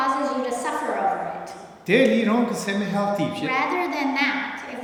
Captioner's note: speaking tibetan